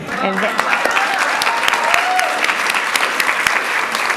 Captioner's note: applause